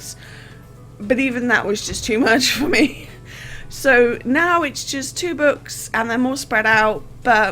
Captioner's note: laughing